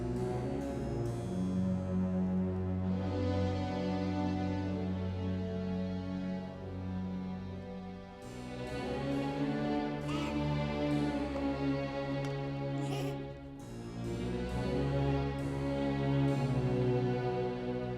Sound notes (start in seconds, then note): 10.2 child giggling; 12.9 soft dramatic music